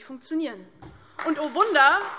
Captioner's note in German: Beifall DIE LINKE